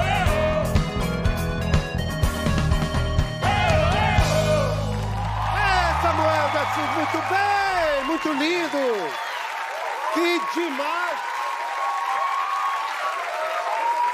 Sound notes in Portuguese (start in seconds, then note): 8.6 gritos; 9.1 aplausos; 13.5 aplausos